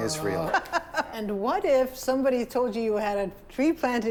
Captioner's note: laughs